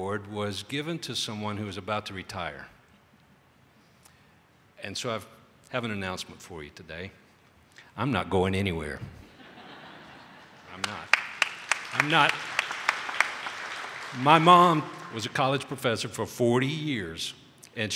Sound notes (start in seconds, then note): 10.4 audience applauding